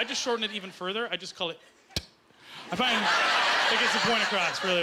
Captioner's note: making a "T" sound